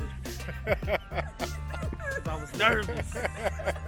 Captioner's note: laughing